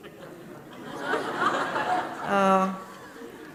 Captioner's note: audience chuckles